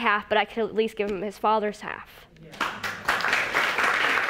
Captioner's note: audience applauding